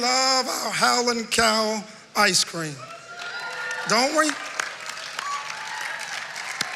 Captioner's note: cheering and applause